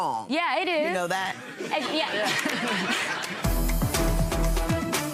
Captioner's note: laughing